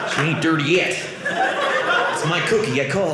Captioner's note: audience laughing